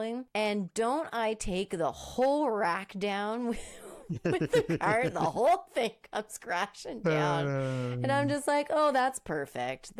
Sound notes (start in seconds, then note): 4.0 laughing